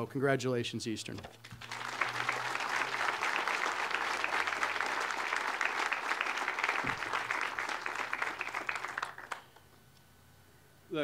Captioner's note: audience applause